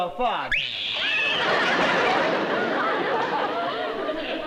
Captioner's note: screaming